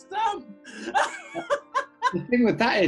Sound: giggling; laughter

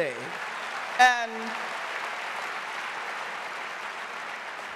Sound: audience applauding

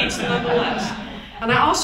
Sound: audience chuckles

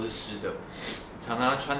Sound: sniffle

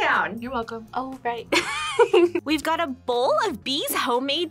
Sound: laughs

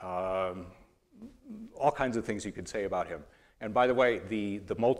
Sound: none

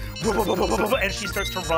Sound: electronic beeping

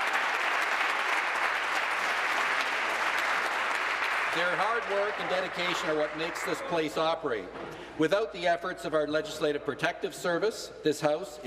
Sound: applause

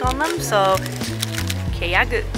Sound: speaking in foreign language

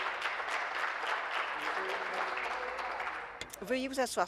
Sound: applause

